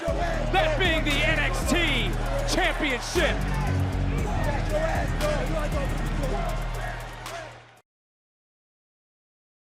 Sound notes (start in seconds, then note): 3.3 yelling